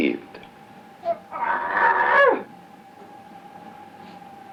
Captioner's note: Paul growling